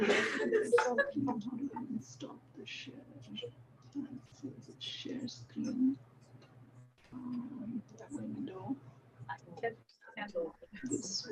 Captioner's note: indistinct conversation